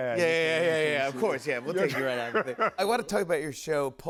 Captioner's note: laughs